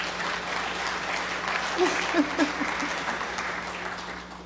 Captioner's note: applause